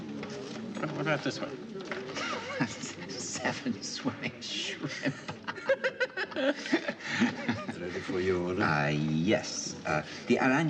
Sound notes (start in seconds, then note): 3.9 Risata